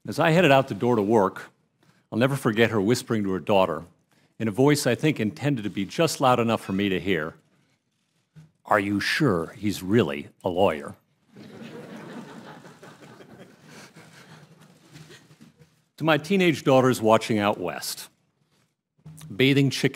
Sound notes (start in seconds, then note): 11.3 laughter